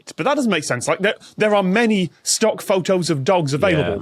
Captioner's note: none